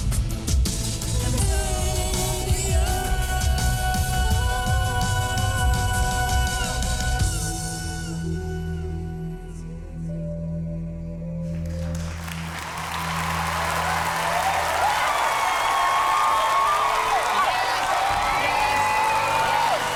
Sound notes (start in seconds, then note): 11.6 cheering